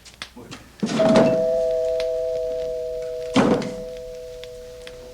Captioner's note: doorbell rings